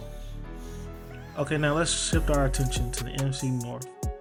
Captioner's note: voiceover